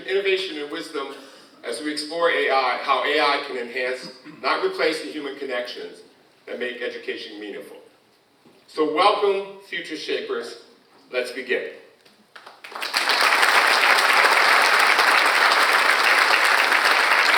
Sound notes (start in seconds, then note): 12.4 audience applauds